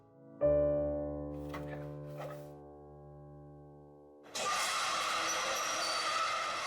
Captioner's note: piano music ends; metal scraping